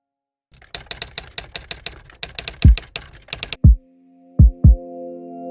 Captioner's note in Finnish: kirjoituskoneen naputusta